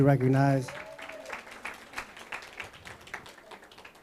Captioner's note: applause